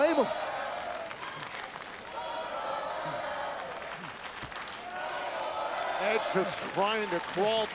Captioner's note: applause